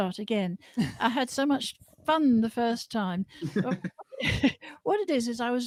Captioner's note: laughter